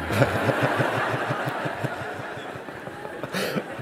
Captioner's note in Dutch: gelach